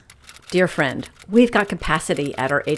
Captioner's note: keys tapping